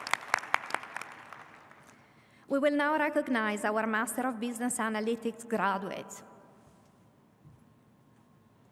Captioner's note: applause